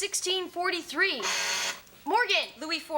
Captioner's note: Morgan hits the buzzer